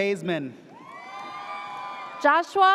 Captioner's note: audience cheers